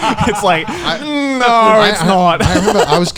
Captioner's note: laughing; groans quickly